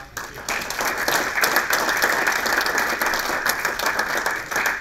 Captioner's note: applause